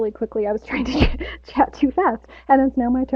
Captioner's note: laughs